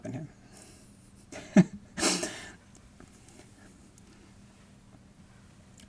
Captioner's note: laughing